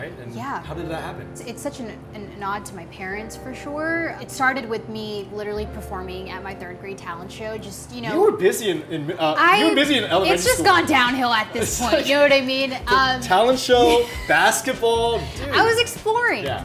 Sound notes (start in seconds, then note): 13.7 Megan laughs